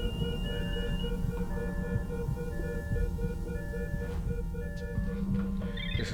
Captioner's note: beeping stops